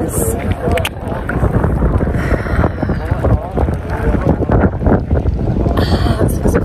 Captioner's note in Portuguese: vento